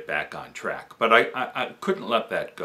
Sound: none

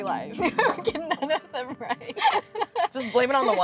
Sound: laughs

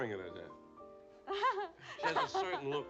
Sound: laughs

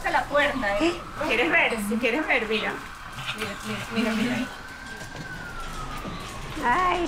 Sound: alarms blaring in the distance

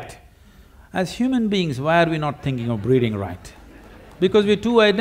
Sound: few Laugh

